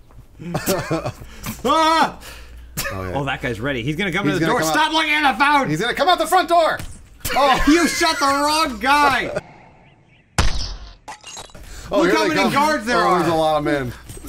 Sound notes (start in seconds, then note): 0.4 laughing; 10.3 slow-motion gun shot sound